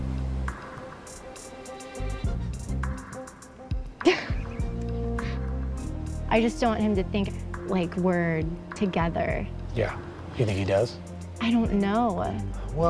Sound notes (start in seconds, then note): 0.2 dramatic music; 4.0 laughs